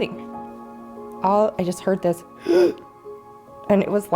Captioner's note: imitates difficult breathing